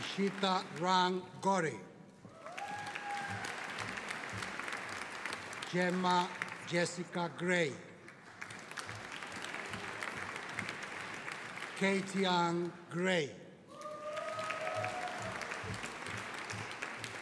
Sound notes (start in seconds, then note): 2.3 audience applauding; 13.7 audience cheering